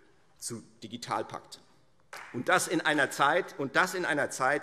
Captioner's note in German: Beifall